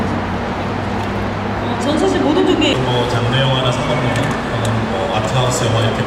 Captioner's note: speaking Korean